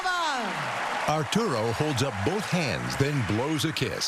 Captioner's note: cheering and applause